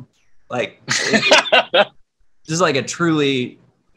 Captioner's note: laughs